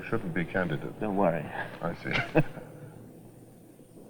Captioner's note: chuckles